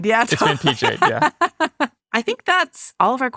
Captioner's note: laughing